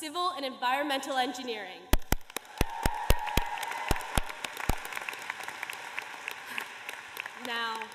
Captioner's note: applause